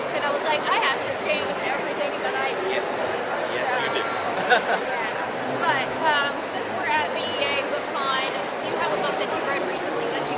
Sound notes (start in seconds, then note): 4.3 laughs